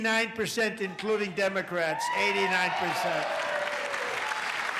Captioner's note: applause